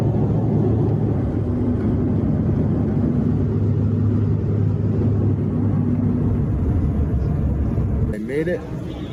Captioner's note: jet noise